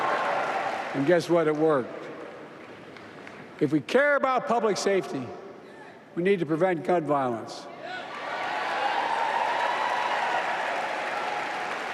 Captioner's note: applause